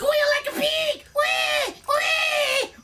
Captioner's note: squeals